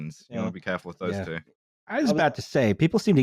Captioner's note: sounds of agreement